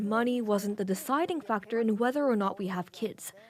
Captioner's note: speaking Alternate Language